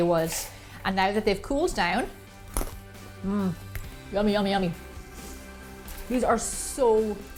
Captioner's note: crunching